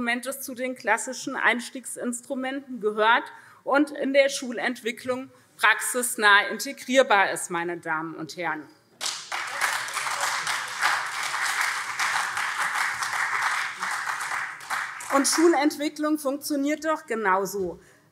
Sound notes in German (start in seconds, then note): 9.0 Beifall SPD und CDU